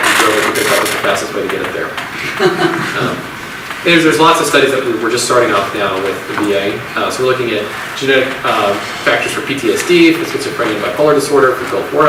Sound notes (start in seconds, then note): 2.1 audience laughs